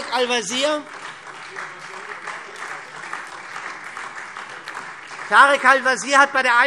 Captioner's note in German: Beifall SPD